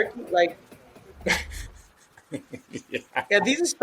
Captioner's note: laughs